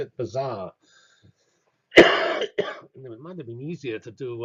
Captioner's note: cough